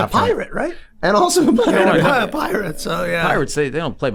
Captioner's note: chuckles